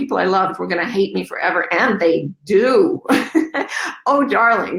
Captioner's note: chuckles